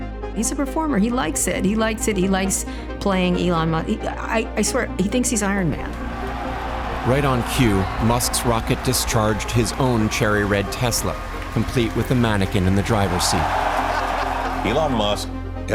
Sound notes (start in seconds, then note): 4.4 crowd cheering and applauding; 11.8 cheering